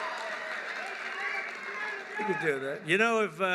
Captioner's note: applause